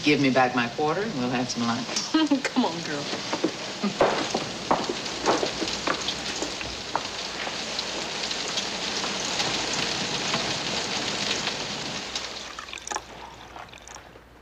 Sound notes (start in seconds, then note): 3.8 laughs; 8.5 rain pattering